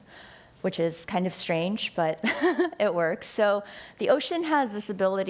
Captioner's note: laughs